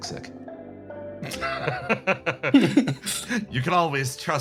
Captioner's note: laughs